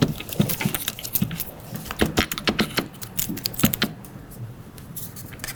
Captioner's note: device clicking continues